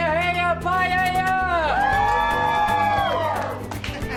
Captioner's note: cheering